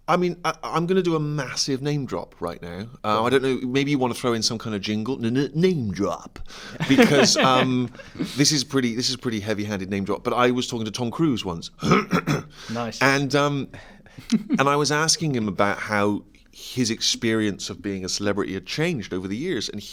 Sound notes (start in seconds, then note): 11.8 clears throat